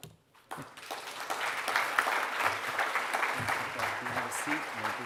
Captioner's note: audience clapping